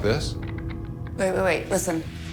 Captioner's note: rattling